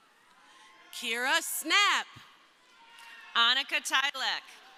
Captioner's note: crowd cheering